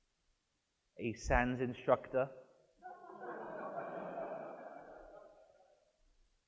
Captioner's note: audience laughs